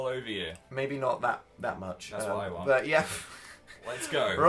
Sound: laughing

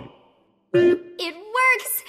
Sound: beep

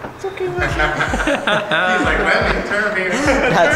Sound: laughs

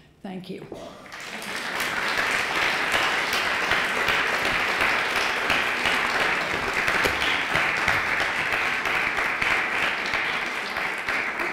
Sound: applause

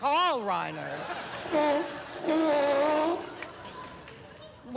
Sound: seal sounds

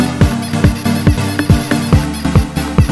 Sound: squeaky-eaky-squeaky-eaky-squeaky-eaky-squeaky-eaky

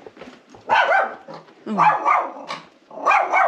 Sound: dog barking

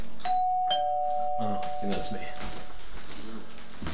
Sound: doorbell rings

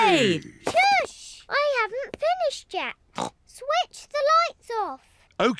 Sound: snorts

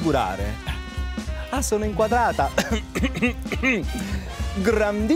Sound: clears Voice

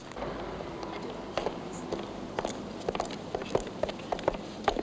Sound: soft chattering

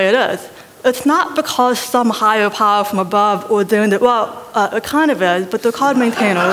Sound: laughter

